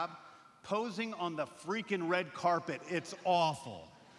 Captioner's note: laughter